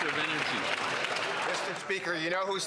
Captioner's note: applause